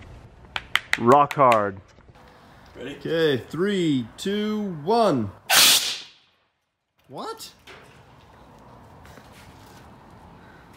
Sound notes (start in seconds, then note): 5.5 shoots air cannon